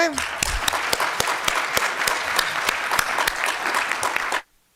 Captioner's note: applause